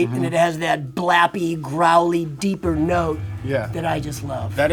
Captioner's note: none